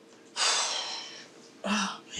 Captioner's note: whew